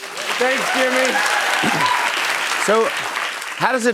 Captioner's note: cheers and applause